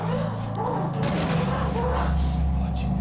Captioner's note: dripping